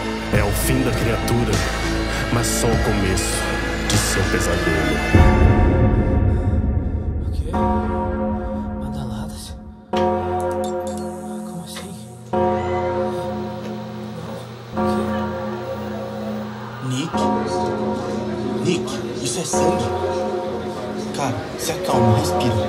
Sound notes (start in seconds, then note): 5.1 cathedral chiming noise; 10.7 electric power surges; 12.6 television turning on, accompanied by screams of pain